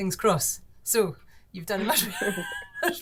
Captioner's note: chuckles